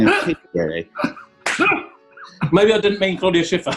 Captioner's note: laughs; key claps